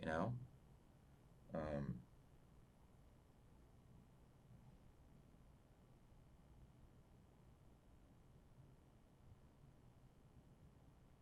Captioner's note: pauses 12 seconds